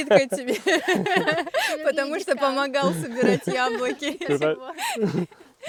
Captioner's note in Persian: خنده